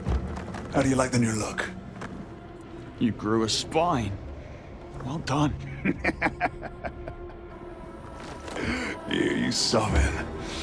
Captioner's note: laughter